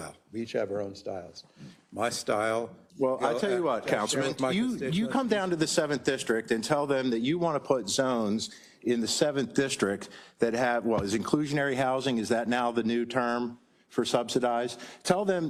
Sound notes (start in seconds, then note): none